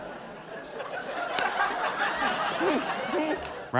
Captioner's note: laughter; raucous laughter